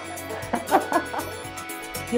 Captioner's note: laughing